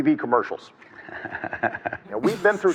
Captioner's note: chuckles